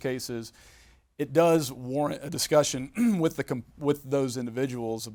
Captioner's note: clears throat